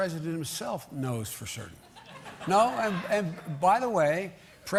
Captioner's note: laughter